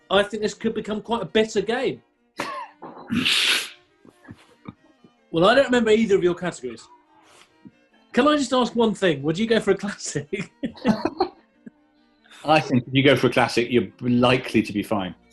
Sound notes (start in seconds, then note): 2.4 sniggering; 10.3 laughter